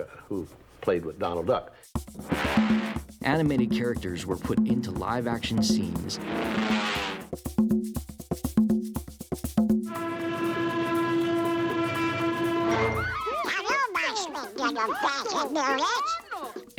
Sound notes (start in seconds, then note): 5.8 whooshing; 12.8 girls shrieking